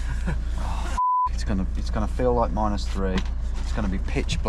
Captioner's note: laughs; beeps